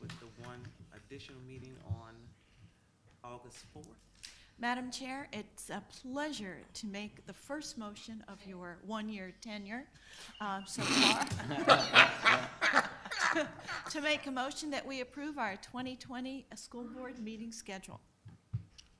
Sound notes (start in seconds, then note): 10.8 people laughing